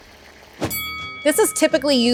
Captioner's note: bell rings